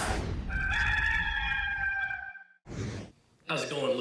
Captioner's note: roosters crows